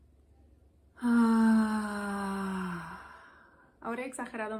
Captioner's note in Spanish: suspiro forzado